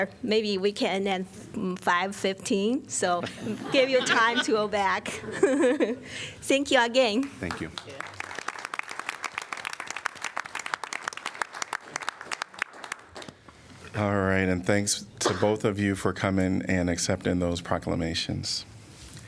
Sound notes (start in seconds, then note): 5.0 laughter; 7.4 applause